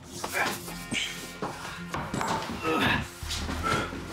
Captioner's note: Raidler grunts; Emmett grunts